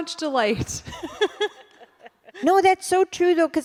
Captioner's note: laughter